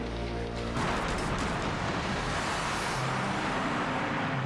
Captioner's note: airplane crashing